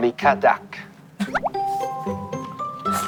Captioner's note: laughing